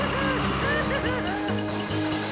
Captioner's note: Spud Crying